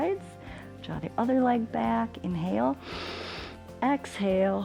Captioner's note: inhales; exhales